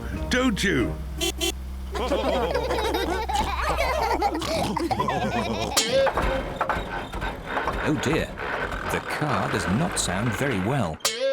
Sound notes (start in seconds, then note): 0.0 horn honks; 1.9 all laughing; 5.7 car clunks